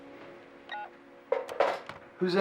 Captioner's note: phone beeping